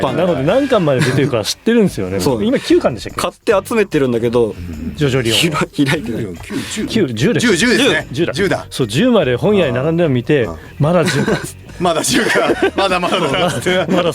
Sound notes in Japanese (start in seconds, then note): 6.3 笑い; 13.4 笑い